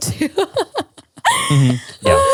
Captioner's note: laugh